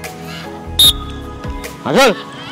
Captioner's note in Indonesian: Peluit